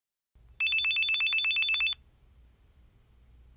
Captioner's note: phone ringing